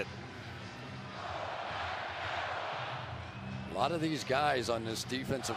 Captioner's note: crowd chanting "go packs go"